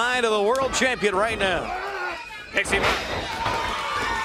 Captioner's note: crowd cheering